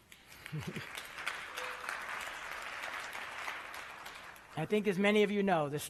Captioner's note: applause